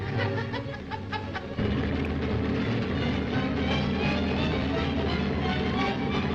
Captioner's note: Joe laughing; submarine rumbling